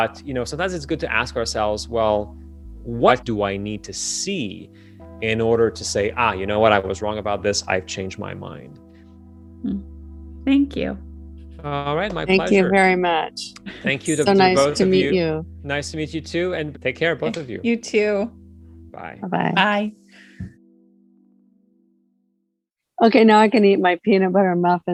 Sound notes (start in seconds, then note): 18.4 on Zoom call